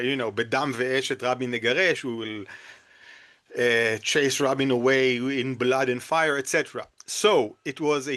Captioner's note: in Hebrew